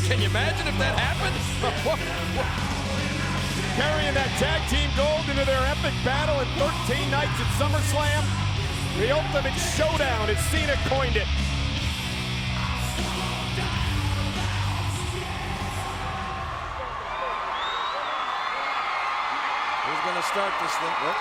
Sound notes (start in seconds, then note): 2.6 laughs; 12.2 upbeat music; 16.4 crowd cheering